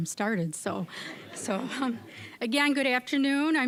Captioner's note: audience laughing